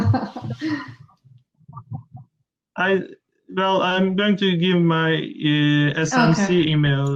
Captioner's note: laughter